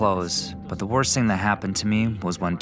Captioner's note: through translator